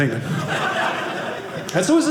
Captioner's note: audience laughing